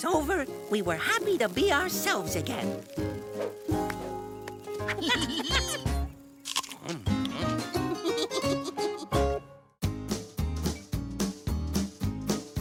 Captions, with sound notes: WE WERE HAPPY TO BE OURSELVES AGAIN. (LAUGHING) (PEAR CRUNCHES) (GIGGLES)